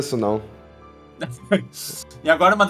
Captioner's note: laughs